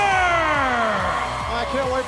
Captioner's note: cheers and applause